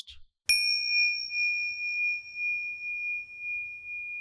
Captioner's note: bell chimes